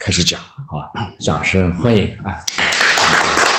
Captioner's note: applause